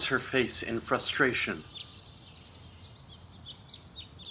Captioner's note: birds chirping